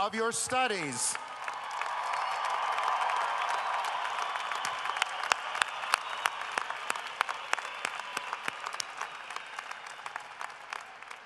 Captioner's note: cheering and applause